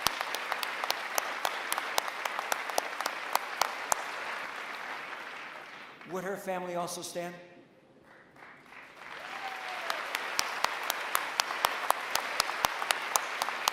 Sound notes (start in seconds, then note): 8.0 applause